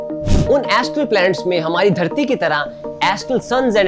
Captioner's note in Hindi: नाक से की जाने वाली आवाज़